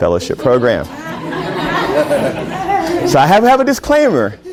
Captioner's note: laughter